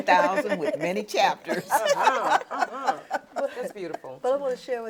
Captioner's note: laughs